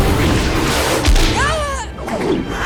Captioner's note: grunting